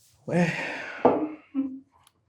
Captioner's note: sighs